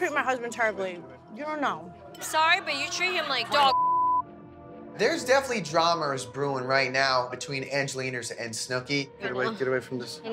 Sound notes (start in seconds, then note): 3.7 beep